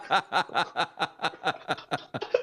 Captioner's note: laughter